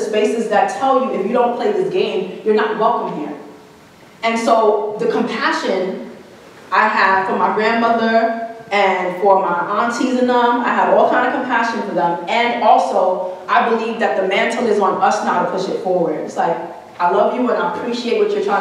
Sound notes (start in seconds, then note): none